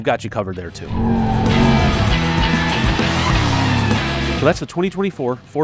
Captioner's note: tire squeal